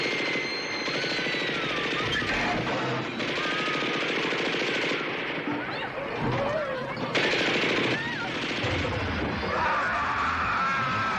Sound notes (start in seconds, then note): 2.5 screaming